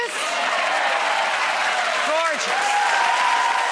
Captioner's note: audience cheering